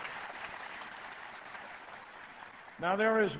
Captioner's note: applause